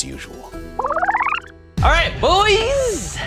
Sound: video rewinding

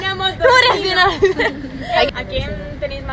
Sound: laughs

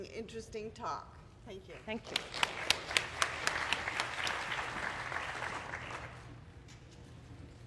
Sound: applause

